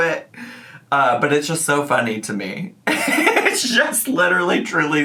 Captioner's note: laughs